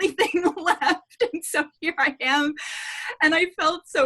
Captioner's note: laughing